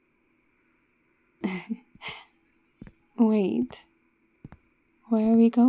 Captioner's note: footsteps